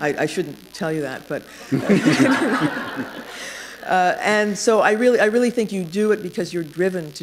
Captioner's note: laughter